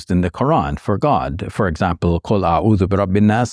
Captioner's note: speaking Arabic